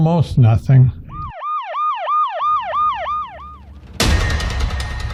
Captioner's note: sirens